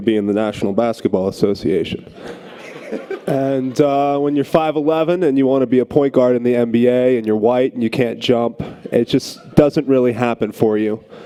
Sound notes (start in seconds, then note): 2.1 audience laughter